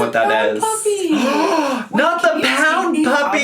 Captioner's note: gasps